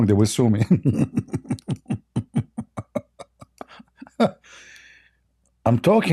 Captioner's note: Ketawa